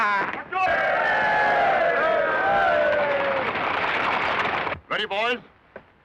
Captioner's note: cheering